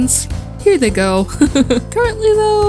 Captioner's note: chuckle